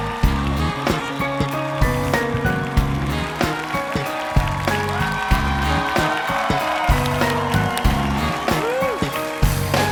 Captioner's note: applause